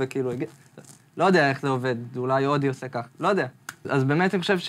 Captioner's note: clicks